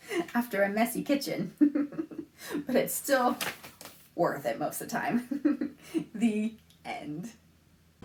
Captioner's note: laughs